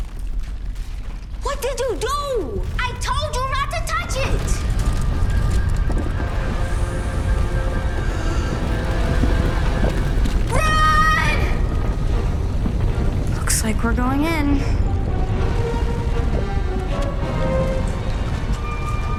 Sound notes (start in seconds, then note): 15.0 rumbling